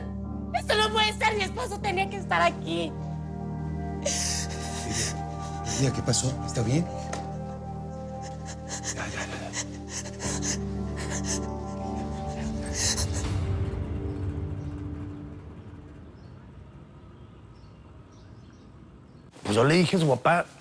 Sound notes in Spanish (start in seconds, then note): 4.0 Sollozos